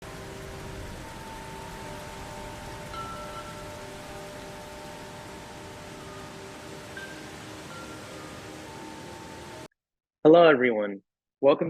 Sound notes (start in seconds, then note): 0.0 rain pattering; 0.0 gentle music